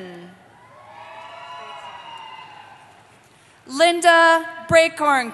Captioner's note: cheering